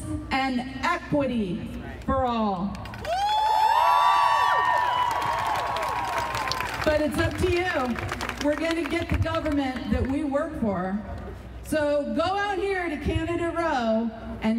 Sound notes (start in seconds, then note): 3.0 audience cheering